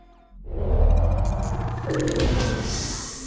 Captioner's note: mechanical whirring